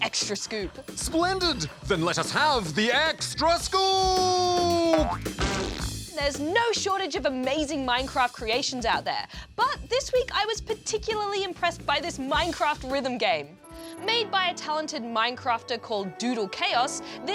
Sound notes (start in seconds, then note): none